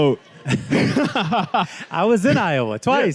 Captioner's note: students laughs